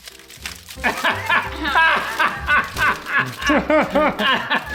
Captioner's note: dad laughing